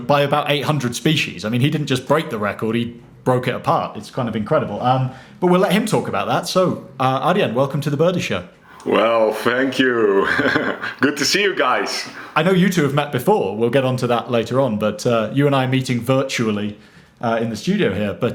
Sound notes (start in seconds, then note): 8.7 chuckles